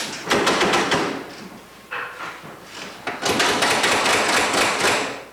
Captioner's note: vending machine clanking